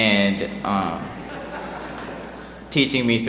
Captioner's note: laughter